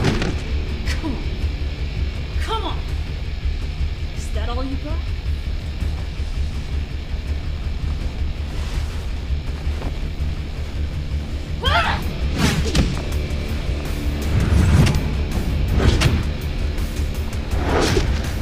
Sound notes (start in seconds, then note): 0.0 thudding; 12.2 thudding; 14.8 whooshing